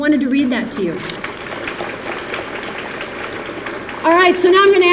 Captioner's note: applause